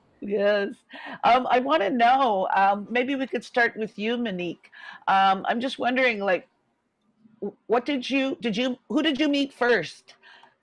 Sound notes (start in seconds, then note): none